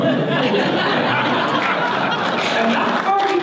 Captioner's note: audience laughter